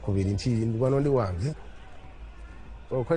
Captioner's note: none